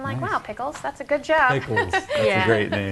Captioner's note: laughs